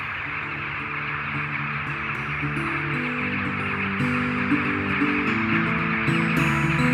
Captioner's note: chattering grows louder; gentle acoustic guitar